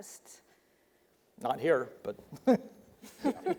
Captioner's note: chuckles